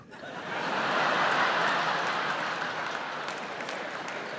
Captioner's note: audience cheering, applauding